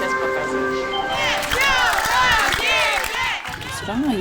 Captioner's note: applause